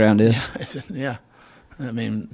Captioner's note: laughs